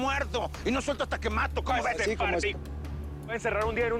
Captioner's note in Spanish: Hablan al unísono